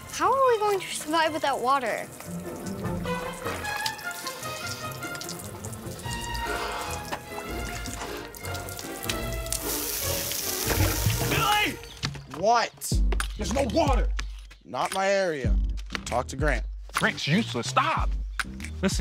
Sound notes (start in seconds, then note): 3.2 cheerful music; 9.8 pipes bursting